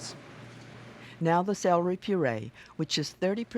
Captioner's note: voiceover